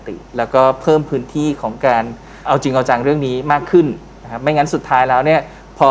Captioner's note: none